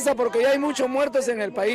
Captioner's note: speaking non-english